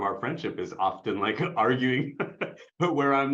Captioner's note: laughs